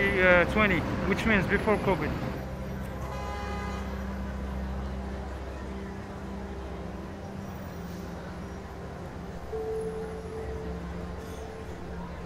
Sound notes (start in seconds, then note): 3.0 car honking; 8.2 background chattering